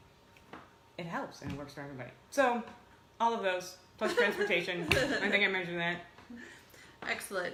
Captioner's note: laughs